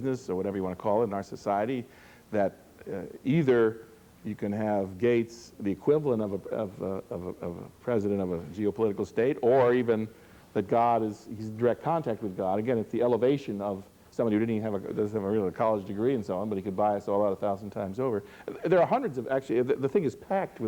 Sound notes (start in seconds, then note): none